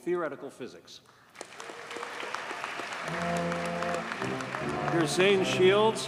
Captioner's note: audience cheers and applauds